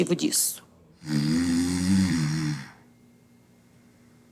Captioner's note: snoring